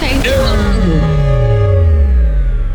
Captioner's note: klaxon Horn